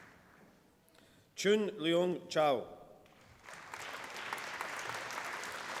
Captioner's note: applause